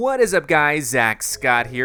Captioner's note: voiceover